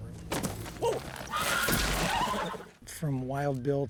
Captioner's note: whinnying